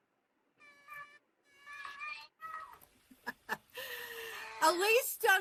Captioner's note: cat cries